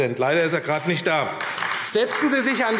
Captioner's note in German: Beifall AfD